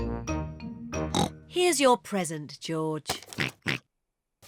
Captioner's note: oinks; oinks; rattles